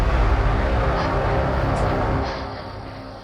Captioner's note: intense music; Shayna's frightened breathing